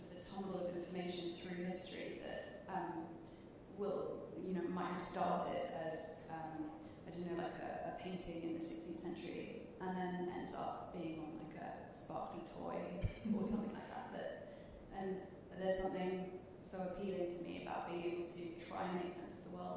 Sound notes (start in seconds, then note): 13.1 chuckling